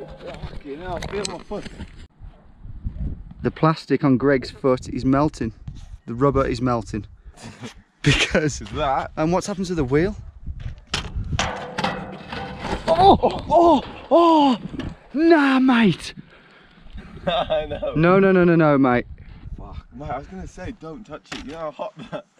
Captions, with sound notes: Yeah. Fucking hell feel my foot. The plastic on Greg's first is melting. The rubber is melting because- That. And what's happened to the wheel? *extreme exclamations of pain* no no no no no mate Fuck. Well, I was going to say, don't touch it. Do you know how hot that-